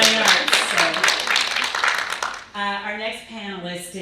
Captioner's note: audience applauding